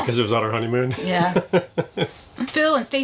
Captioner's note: laughs